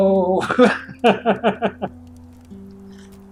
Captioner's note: laughs